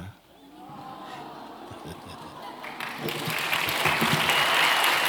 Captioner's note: clapping